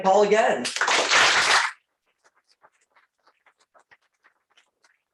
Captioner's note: applause